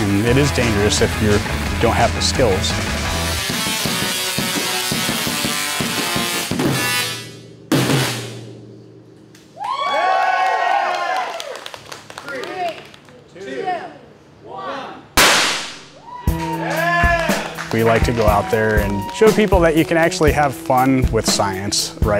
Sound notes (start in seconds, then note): 3.2 electric guitar strumming; 9.5 crowd cheering; 12.6 crowd; 15.2 bang; 15.9 crowd cheering